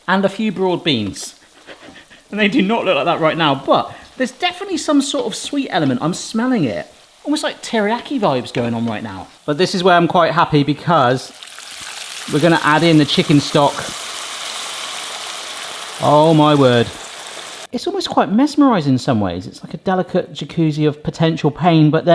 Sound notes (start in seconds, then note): 1.5 chuckles; 13.9 pan sizzling; 13.9 stock trickling